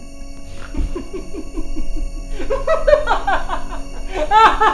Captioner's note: Isaac laughing